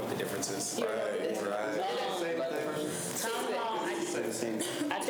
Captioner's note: students chatter